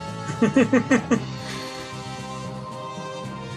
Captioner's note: laughs